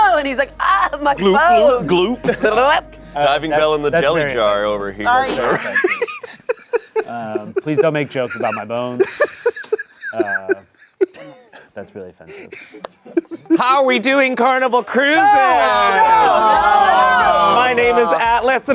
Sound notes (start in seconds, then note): 5.2 laughs; 9.1 laughing